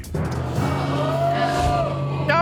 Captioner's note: audience exclaiming